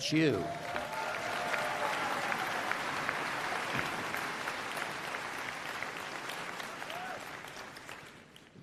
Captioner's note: applause